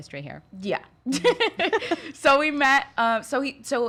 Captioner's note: laughs